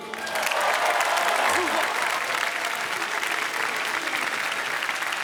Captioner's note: applause